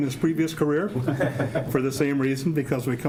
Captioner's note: laughing